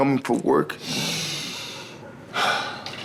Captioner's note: exhaling; inhaling